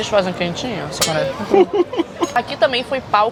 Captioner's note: laughs